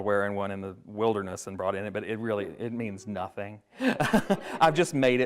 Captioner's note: laughs